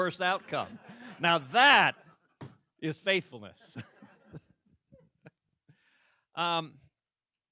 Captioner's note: laughter